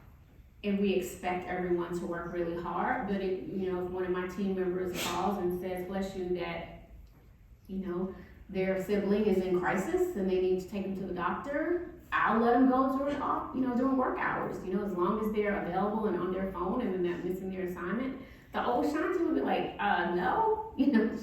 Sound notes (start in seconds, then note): 6.3 audience member sneezing